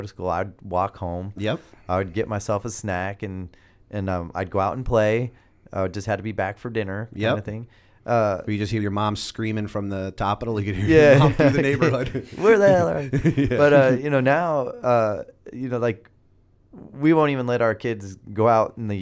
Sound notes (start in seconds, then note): 13.2 laughter